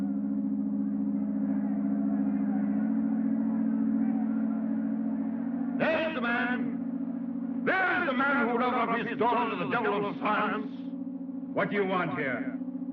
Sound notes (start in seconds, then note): 0.1 crowd Shouting; 5.8 voice Amplified